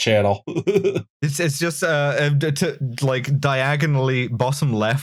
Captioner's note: laughter